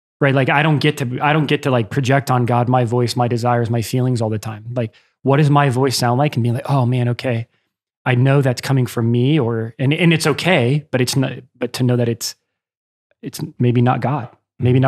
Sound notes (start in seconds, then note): none